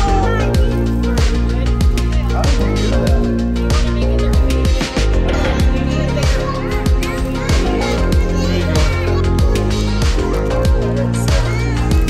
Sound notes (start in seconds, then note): 5.6 kids playing